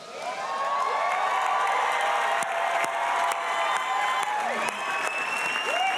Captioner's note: audience cheering and applauding